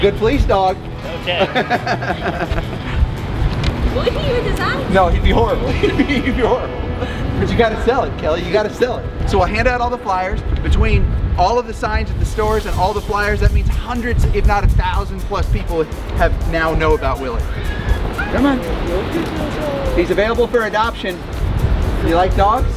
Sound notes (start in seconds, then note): 5.6 laughs